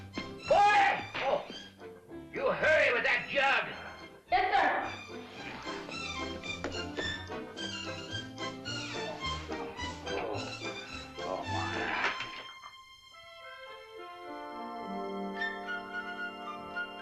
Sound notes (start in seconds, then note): 5.8 whimsical country tune; 11.1 groans; 13.2 whimsical music